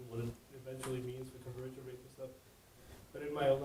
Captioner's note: speaks faintly; speak faintly